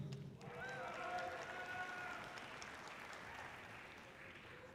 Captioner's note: audience cheering loudly